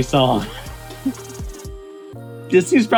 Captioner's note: laughing